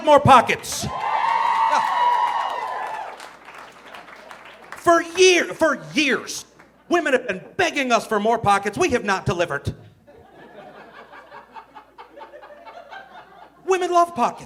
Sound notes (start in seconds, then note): 1.9 audience cheering; 10.1 audience laughing